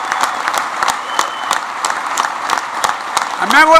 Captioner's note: applause